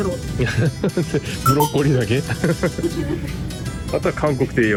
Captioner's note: laughs